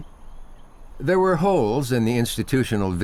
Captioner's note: nature sounds